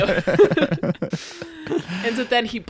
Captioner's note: laughing